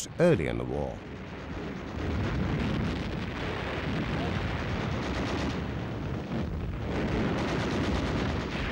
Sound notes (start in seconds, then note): 0.3 guns firing and bombs exploding